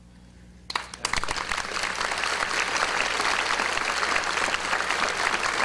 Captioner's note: audience applause